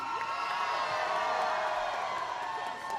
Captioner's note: applause